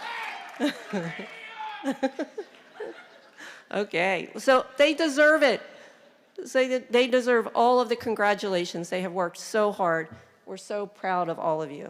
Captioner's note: cheering